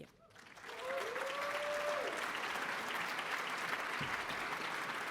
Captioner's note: applause